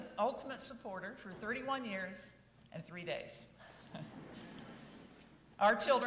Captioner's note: chuckles